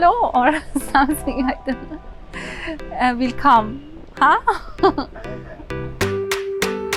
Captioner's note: laughs